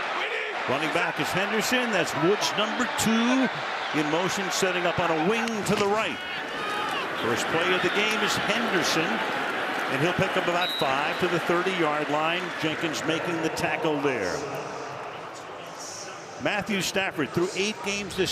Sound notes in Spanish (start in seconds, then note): 2.7 hablan en inglés